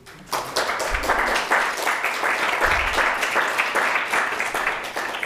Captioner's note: participants clapping